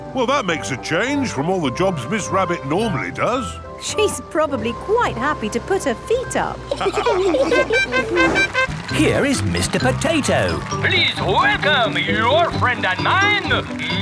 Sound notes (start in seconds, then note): 6.7 all laughing; 7.5 horn tooting